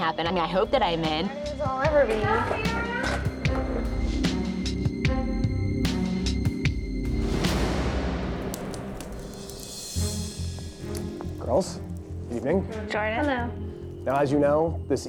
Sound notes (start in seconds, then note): 3.1 contestants chattering; 5.3 suspenseful music; 9.0 flames crackling